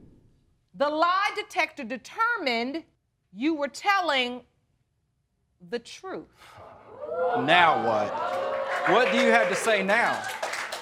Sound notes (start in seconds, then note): 6.6 audience hooting; 7.2 applause